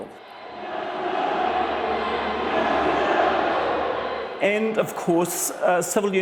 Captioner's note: angry crowd shouting and chanting